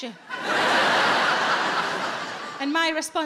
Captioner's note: audience laughs